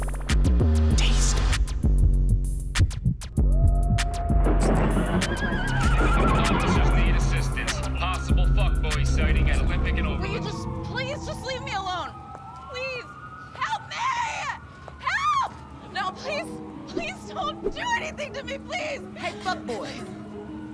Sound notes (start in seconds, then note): 5.1 horse neighing; 6.5 police officer on radio